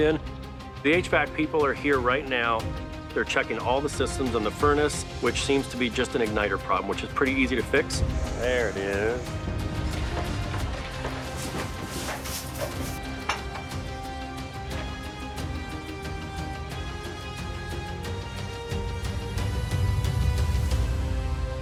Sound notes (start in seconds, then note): 9.8 objects clattering; 10.0 dramatic music